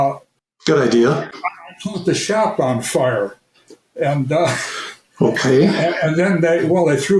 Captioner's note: chuckles